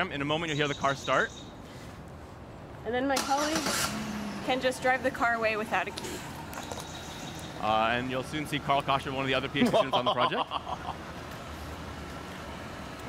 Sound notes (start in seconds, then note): 3.1 engine starts; 9.6 laughs evilly